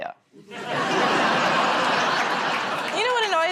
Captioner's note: laughter